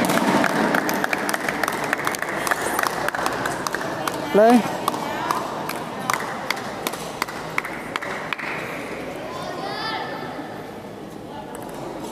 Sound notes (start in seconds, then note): 0.0 applause